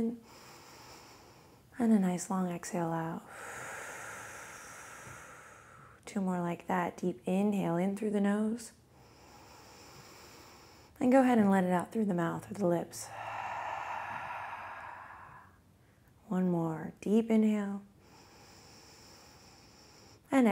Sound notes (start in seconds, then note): 0.2 inhales; 3.3 exhales; 9.0 inhales; 13.0 exhales; 18.0 inhales